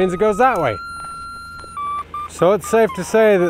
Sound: machine squealing

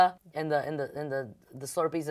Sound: none

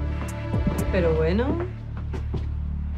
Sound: footsteps moving away

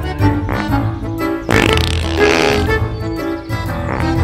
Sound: poop sounds

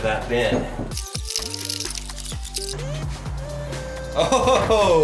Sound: video squelches

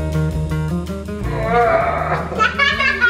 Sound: groans; laughing

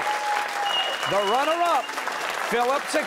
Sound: cheers and applause

